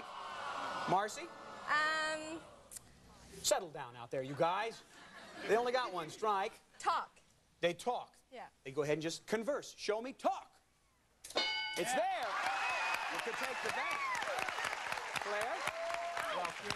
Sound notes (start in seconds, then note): 11.3 bell dinging; 11.8 crowd cheers